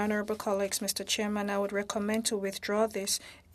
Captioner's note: speaking French